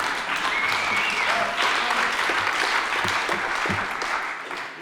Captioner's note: audience laughing; audience cheers and applauds